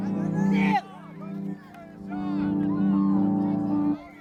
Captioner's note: shouting